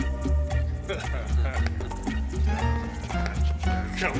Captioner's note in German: kichert; Männer lachen